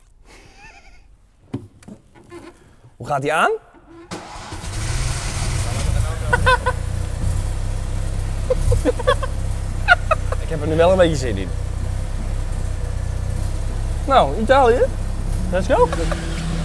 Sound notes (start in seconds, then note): 0.2 chuckles; 4.1 sound of starting car; 6.3 laughs; 12.4 sound of car